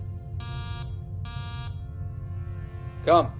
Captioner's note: door buzz